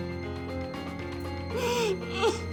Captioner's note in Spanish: Sollozos